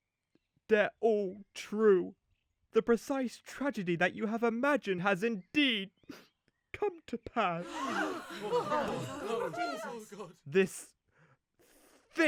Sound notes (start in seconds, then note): 6.1 sniffles; 7.6 villagers gasp, scream